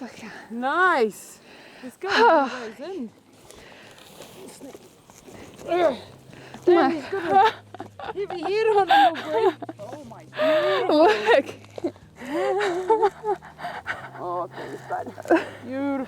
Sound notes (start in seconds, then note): 5.6 grunting; 12.9 chuckling softly